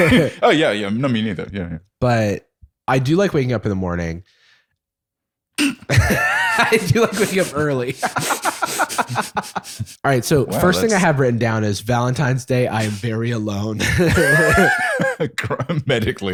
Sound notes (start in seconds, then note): 8.5 laughter; 13.8 laughter